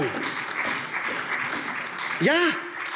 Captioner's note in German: Beifall SPD und DIE LINKE